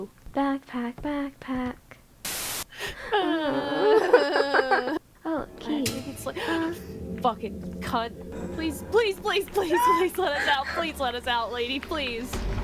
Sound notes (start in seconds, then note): 2.2 static; 2.8 gasps then cries in unison; 9.6 just crying